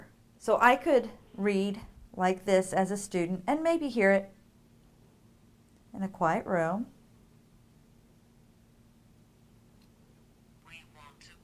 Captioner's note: device speaking